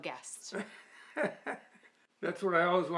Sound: laughing

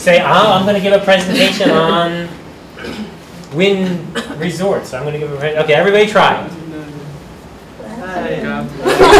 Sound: laughter and talking

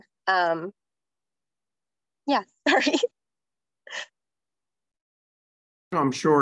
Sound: laughter

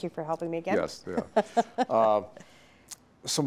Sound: laughing

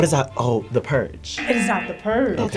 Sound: klaxon sounds

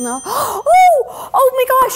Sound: bell dinging; gasping

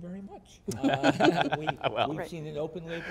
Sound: laughter

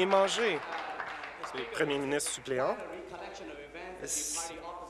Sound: applause

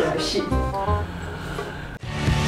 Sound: sigh

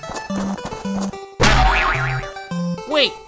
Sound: thwack-boing

